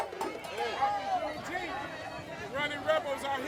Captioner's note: festive street ambience